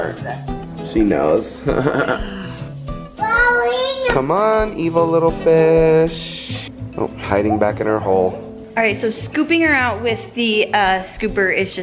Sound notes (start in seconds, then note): 1.6 laughs; 3.2 child yells